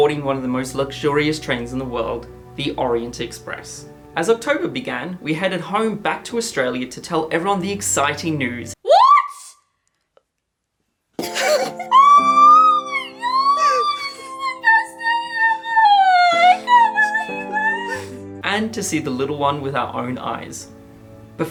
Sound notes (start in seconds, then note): 11.2 laughing; 11.9 screaming